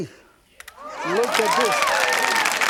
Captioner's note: crowd cheering